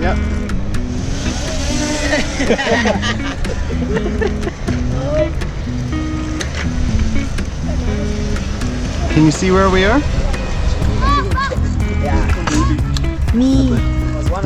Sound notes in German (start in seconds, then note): 1.2 Lachen